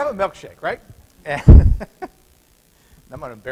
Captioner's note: laughter